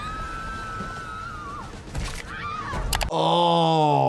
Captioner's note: people screaming